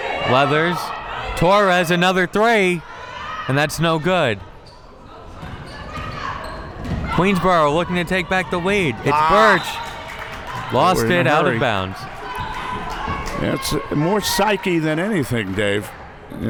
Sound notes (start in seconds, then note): 9.4 whistle